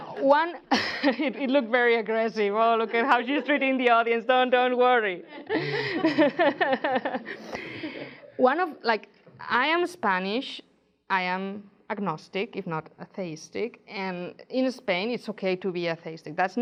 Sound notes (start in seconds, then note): 0.0 audience laughing; 5.3 laughs